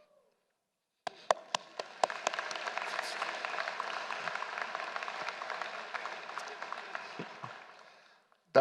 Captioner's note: applause